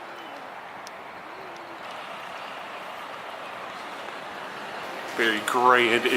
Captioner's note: engine puttering